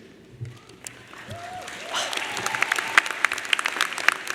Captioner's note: audience applauds